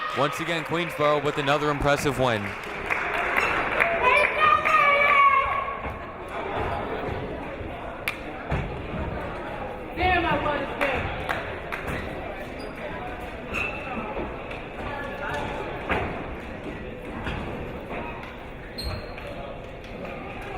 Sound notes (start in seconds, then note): 7.6 crowd murmuring